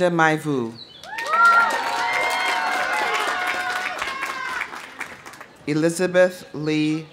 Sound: audience cheering; audience applauding

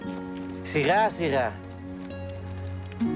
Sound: speaking in Greek

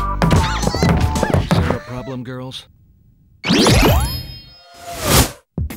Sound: girls grunting

